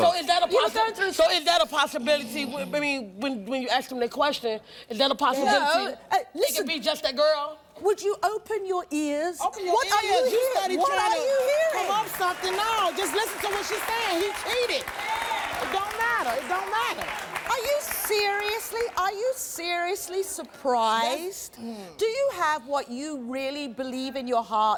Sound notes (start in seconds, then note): 15.9 audience applauding and cheering